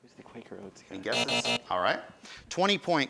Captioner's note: buzzing